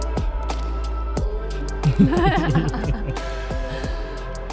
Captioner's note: laughter